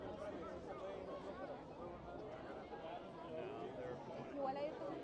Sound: people chattering

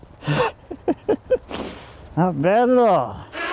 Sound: laughing

